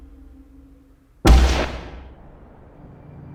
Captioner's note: door bangs; soft organ music